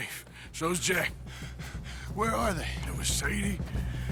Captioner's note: panting